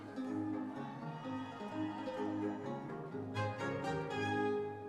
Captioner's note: audience members cheering